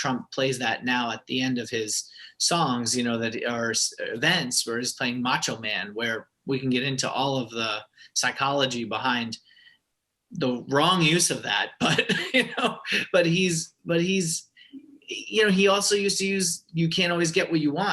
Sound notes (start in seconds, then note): 11.9 laughter